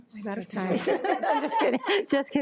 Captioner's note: all laughing